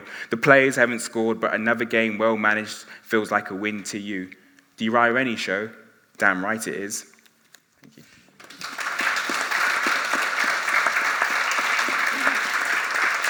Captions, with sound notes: the players haven't scored, but another game well-managed feels like a win to you. The Uriah Rennie show? Damn right it is. Thank you. (audience applauding)